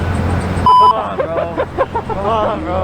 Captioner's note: laughing